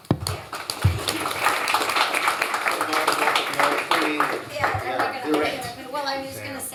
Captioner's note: applause